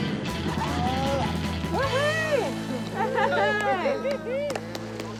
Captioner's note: grunts; laughs; instructors whoop, clap